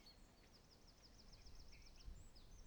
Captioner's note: none